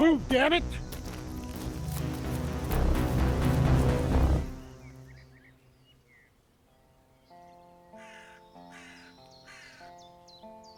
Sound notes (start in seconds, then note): 5.3 birds chirping; 7.9 crow caws